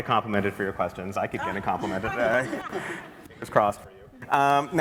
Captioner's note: laughter